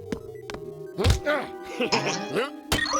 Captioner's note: giggles